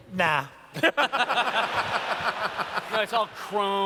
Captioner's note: laughter